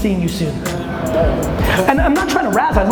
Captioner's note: audience groans